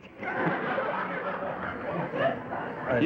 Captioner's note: laughter